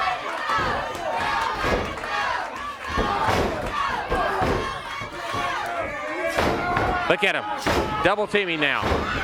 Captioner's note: crowd cheering